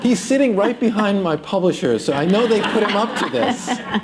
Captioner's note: laughter